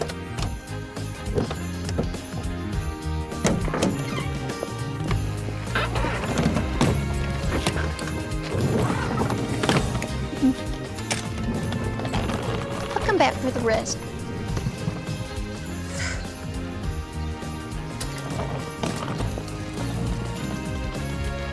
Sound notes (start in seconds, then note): 6.9 suitcases thudding; 15.8 sighs